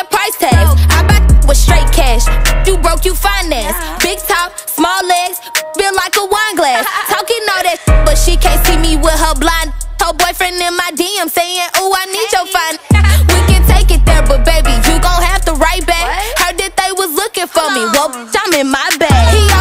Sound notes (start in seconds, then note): 6.3 haha